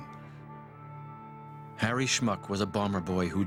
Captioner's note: voiceover